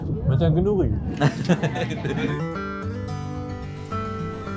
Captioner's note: laugh